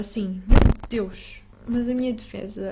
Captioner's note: microphone go BOOM